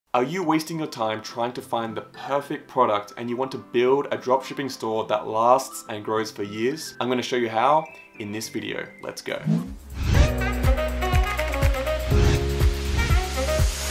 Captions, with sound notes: - Are you wasting your time trying to find the perfect product,and you want to build a dropshipping store, that lasts and grows for years? I'm gonna show you how in this video. Let's go. (air whooshes) (upbeat music)